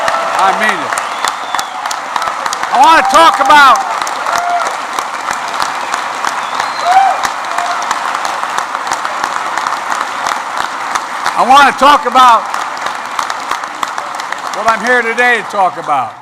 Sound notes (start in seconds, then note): 5.2 applause